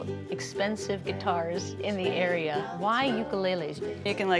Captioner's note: none